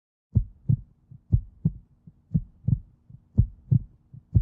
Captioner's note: heart beats